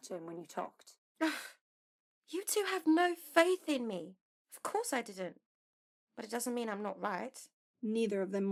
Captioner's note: Mary huffs